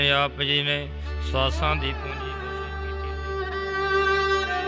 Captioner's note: chanting